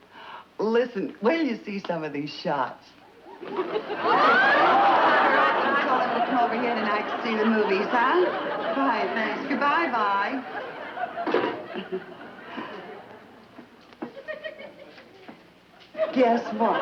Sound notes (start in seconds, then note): 2.6 laughter from audience; 10.5 audience giggles